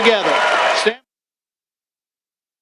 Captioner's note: audience Cheering; silence